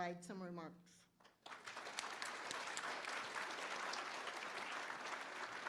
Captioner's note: applause